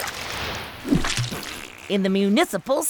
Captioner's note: farting